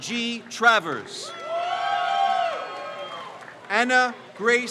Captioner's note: crowd cheers